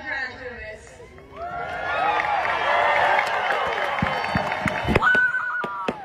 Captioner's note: cheering and whooping